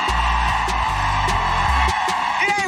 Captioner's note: applause